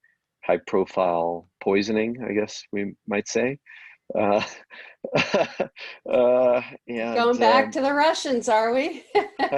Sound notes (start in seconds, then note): 4.1 laughs